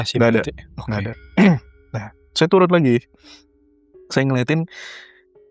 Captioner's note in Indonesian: tertawa